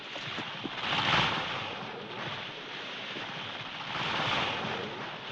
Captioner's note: tree creaking